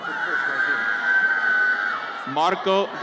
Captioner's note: audience cheers